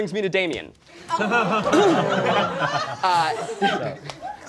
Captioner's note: all laughing